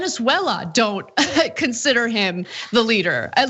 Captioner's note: laugh